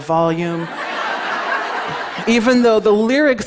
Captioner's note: laughter